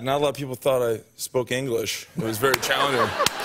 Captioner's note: laughter